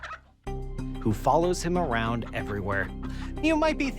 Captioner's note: chicken clucking